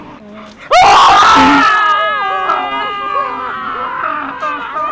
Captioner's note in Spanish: Todos gritan